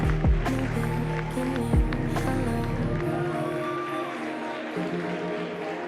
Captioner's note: applause